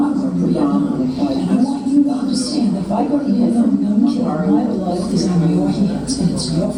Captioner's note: female voice in English